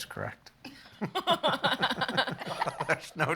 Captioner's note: laughing